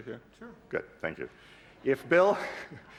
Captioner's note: chuckling